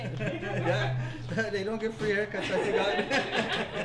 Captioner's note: laughs